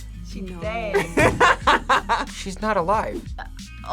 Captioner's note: laughs